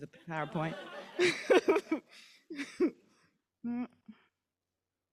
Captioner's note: laughs